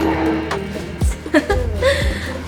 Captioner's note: giggles